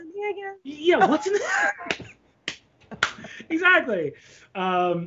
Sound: both laughing

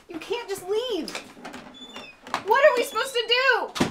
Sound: door creaking open

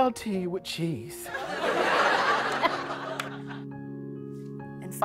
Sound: laughter

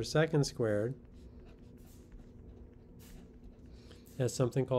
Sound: pen scratching

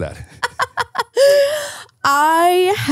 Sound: laughing

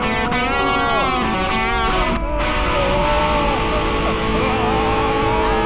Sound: incoherent screaming

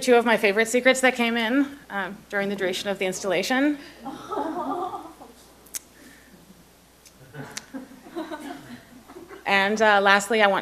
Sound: laughter

